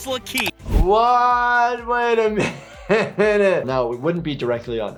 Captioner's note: laughs